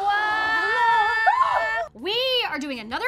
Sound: excited shouting

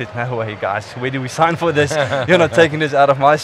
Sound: laughing

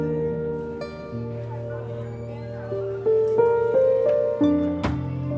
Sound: crowd chattering

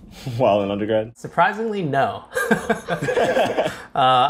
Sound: laughs

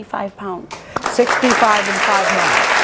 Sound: audience applauds

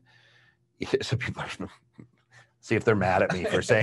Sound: laughs

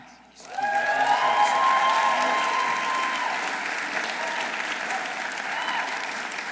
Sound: audience applauding; audience cheering

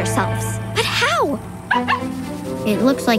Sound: barking

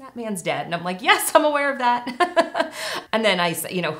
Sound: laughs

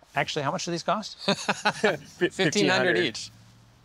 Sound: laughs

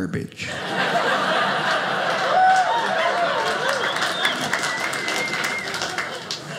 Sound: audience laughing

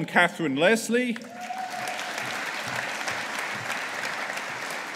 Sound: audience applauding

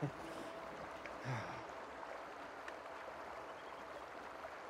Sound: water flowing

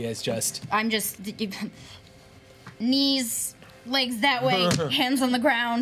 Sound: chuckles

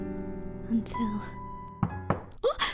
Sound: knock

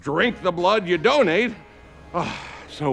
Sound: sighs

